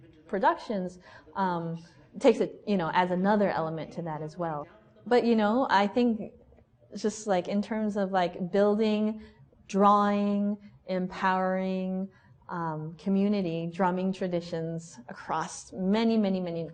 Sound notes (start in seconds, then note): none